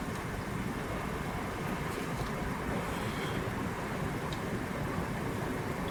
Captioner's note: distant traffic sounds